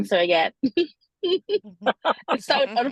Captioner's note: laughter